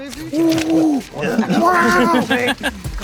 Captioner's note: group laughing; group cheering